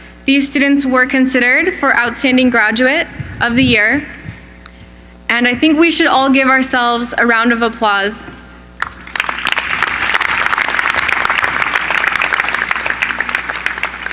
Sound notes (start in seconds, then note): 8.8 applause